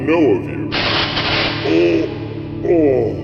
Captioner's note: electric zaps